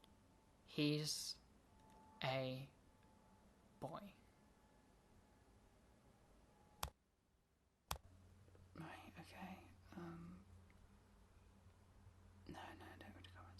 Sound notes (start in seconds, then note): 6.6 button Click